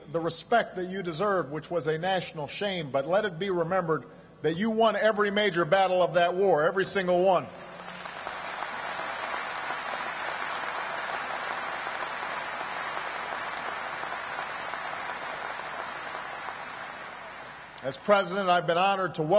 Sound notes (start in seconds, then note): 10.3 applause